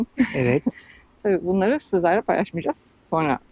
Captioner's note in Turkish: kahkaha